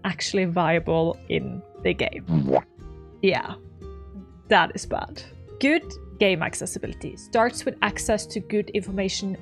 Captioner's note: womp sound